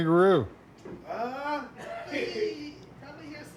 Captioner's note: laughs